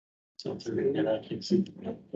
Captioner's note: members chattering